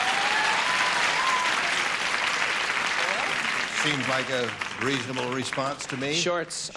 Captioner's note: applause